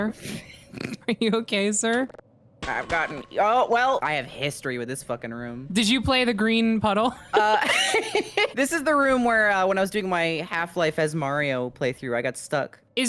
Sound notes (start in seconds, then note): 0.5 laughs; 7.3 both laugh